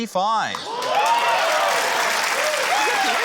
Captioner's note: cheering, applause